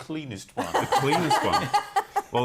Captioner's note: laughter